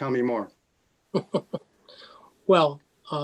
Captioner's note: laughing